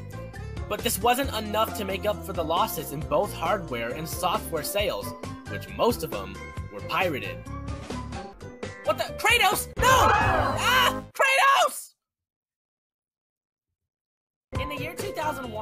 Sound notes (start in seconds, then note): 10.0 crowd Gasping